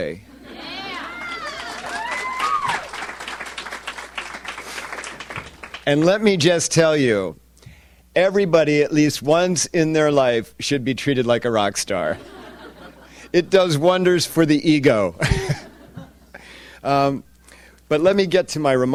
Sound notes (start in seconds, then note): 0.5 audience cheers and applauds